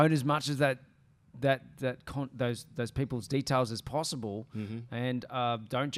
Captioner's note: stuttering